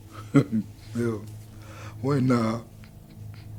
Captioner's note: chuckles